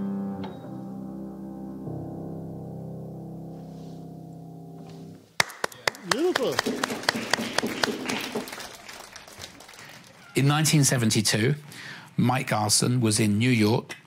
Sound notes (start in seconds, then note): 5.4 students applauding